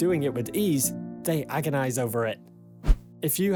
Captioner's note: screen swishes